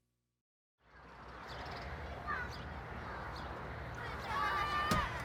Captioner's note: children playing